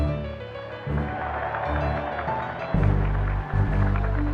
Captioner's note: applause, cheering